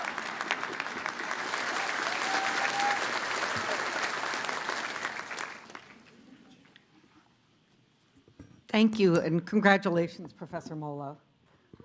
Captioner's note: cheers and applause